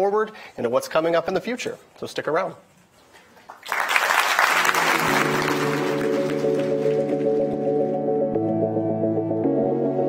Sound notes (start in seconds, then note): 3.4 attendees applauding; 7.1 mellow music